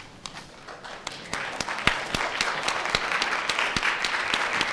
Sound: audience applauds

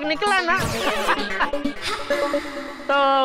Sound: laughing

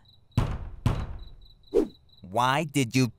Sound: Michael bangs on door

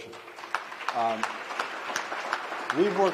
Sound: applause

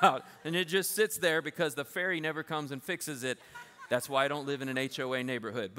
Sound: laughter

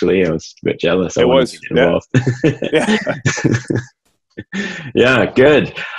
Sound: laughs

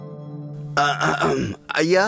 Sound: clears throat

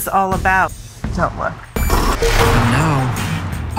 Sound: electronic reverberations; upbeat rock music

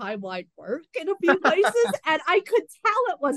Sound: heavy laughter

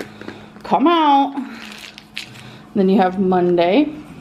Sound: pill clattering

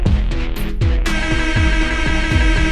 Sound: shitting music continues; another short air horn toot

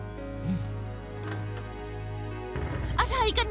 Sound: door opening

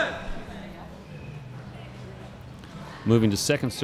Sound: chattering

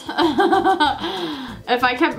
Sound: giggling

